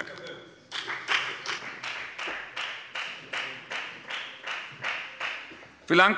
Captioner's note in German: Beifall bei der FDP